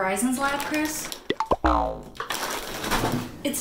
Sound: trail mix bag rustling

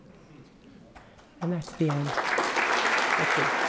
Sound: applause

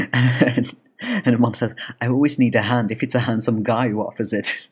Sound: giggle

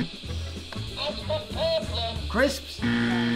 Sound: ant’s buzzer; incorrect buzzer

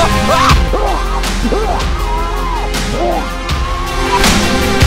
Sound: muffled screaming/choking

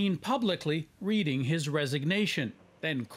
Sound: speaking Foreign Language

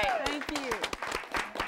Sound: �cheering and applause�

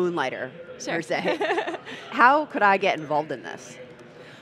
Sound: laughing

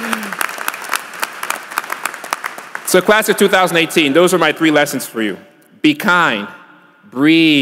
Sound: applause

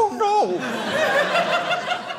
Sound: audience laughing

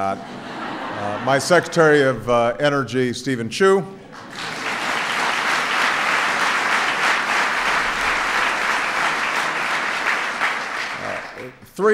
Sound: laughter; applause

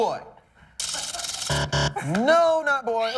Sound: buzzer

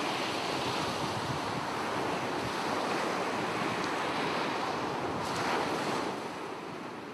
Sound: sound of ocean waves lapping at the shore

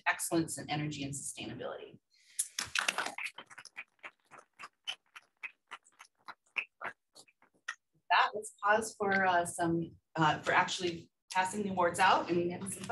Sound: applause

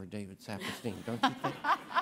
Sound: everybody laughing

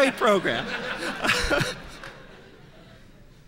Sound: laughter

